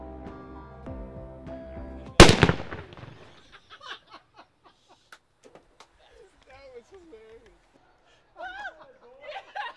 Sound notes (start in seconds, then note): 2.2 firecracker explodes; 5.7 men laughing